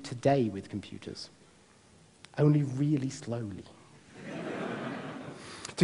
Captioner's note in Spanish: Risas